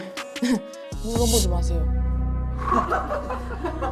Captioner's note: sudden change sound effect